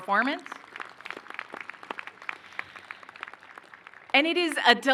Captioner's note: applause